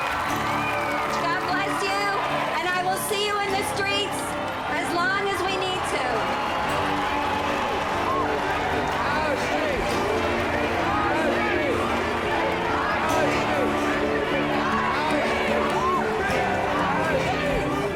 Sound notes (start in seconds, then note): 4.9 cheering and applause; 7.9 chanting